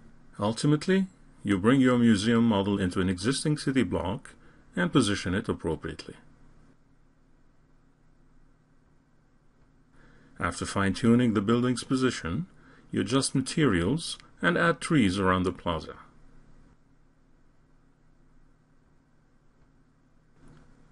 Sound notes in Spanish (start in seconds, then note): 6.6 Silencio intencional; 15.7 Silencio intencional